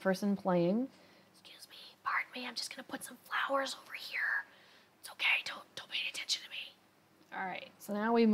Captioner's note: whispers